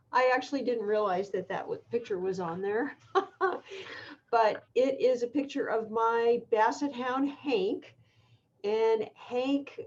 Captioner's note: laughter